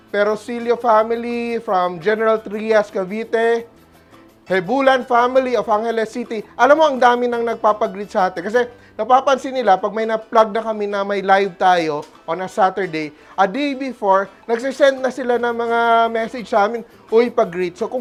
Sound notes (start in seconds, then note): none